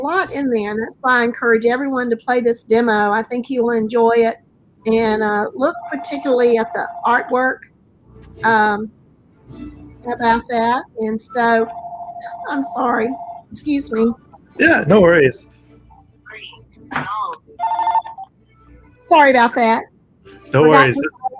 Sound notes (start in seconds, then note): 11.3 phone rings